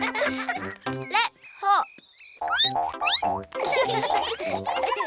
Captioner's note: squeaks; all giggle